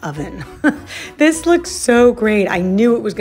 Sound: chuckles

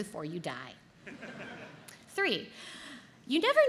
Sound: audience laughs

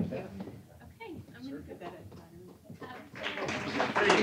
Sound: applause

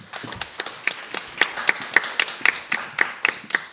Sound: applause

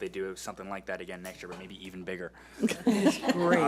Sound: board laughs

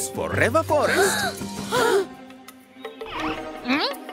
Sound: children gasping

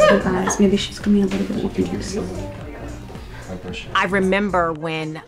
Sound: indistinct conversation

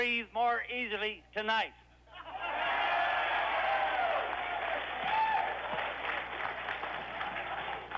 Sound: cheers

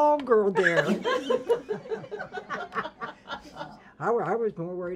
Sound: ladies laughing

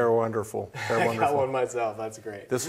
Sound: laughs

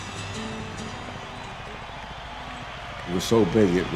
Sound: light rock music; crowd cheering

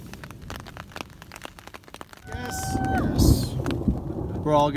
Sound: raindrops plunk, thunder rolls

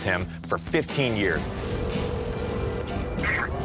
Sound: phone ringing

